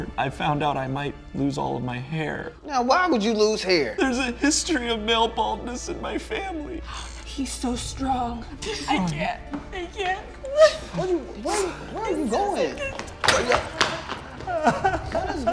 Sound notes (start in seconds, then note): 10.0 sobbing; 13.4 crying